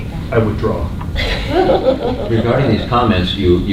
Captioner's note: laughter